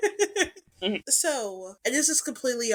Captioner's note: laughs